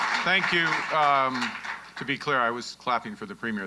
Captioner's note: applause